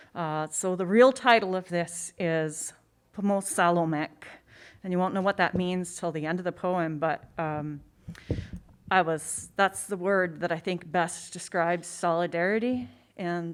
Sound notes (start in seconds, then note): 2.3 speaking in a foreign language